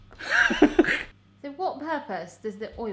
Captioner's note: laughs